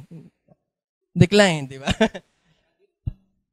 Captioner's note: laughter